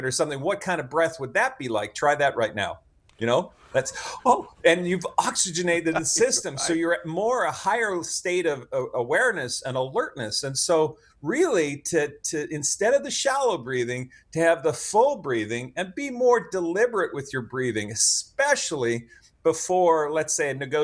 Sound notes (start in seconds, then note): 5.8 chuckles